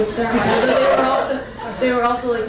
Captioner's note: crowd laughing